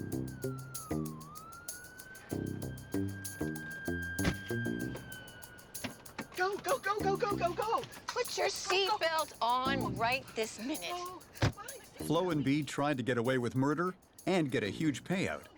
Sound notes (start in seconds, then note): 4.2 car door thudding